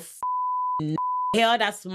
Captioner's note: beep